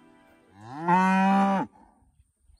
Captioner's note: moos in Russian